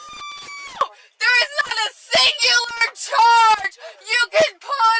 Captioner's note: screaming